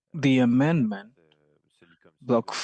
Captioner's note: speaking french